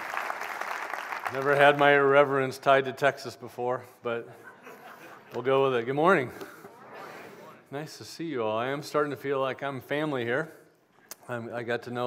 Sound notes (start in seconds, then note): 0.0 applause; 4.3 laughter